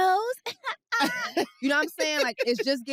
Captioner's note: giggles; laughs